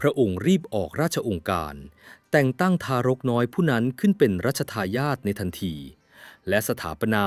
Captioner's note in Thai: เสียงสูดหายใจ